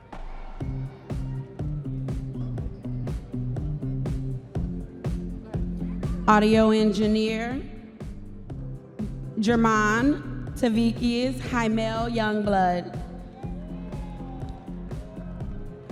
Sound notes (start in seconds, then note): 1.1 audience members cheering; 4.1 upbeat music; 15.7 audience members cheering